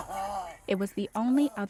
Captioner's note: cries